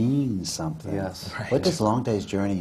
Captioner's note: laughs